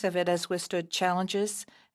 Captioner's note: speaking French